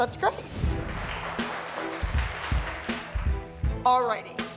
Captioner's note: clapping